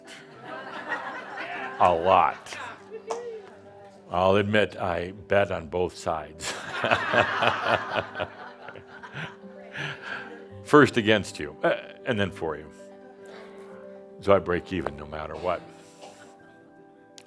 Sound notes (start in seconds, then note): 0.1 laughter; 6.4 more laughter